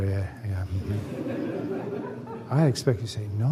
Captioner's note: laughter